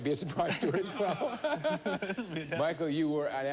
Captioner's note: laughter